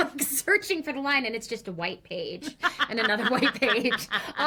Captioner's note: laughs